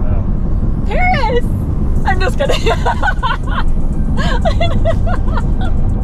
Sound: laughing

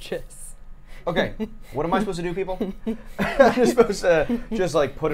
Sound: laughs

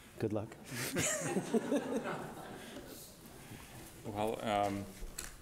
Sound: audience laughing

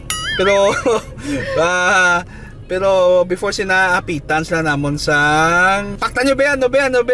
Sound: laughter because inadequate verbal skills

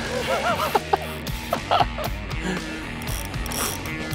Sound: laughing

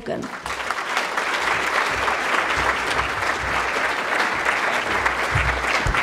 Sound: applause

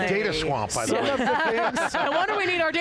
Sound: panelists laughing

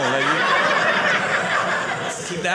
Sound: audience laughing

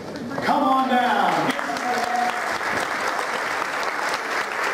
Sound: applause

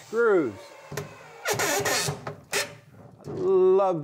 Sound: drill whirring; wood churning

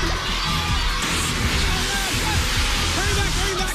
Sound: steam hissing

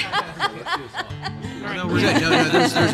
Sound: laughter

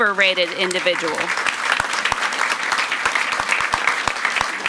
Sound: audience applauds

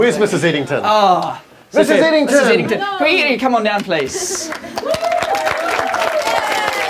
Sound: applause

